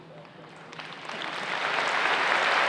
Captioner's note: applause